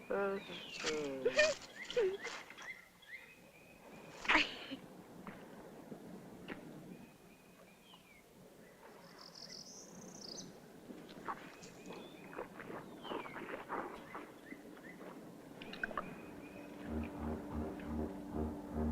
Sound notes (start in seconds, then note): 0.1 laugh; 4.2 laugh; 11.2 swallowing; 16.8 worrying music